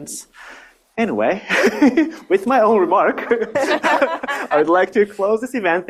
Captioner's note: audience laughs